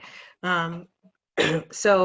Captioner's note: clearing throat